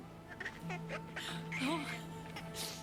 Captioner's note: baby noises